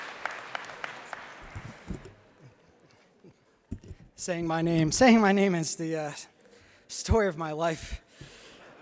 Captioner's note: applause